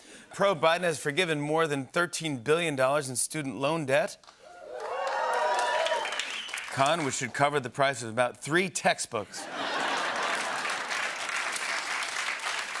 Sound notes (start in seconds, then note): 4.4 cheers and applause; 9.4 laughter